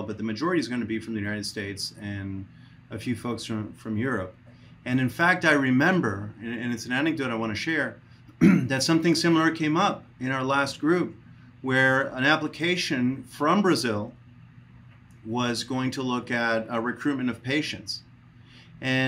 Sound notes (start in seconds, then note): 8.4 clears throat